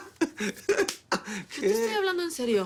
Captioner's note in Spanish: Risas; Palmada